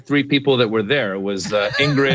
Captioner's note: laugh